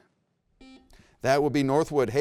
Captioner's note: buzzer beeps